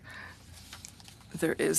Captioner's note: speaking French